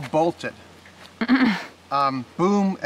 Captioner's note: laughing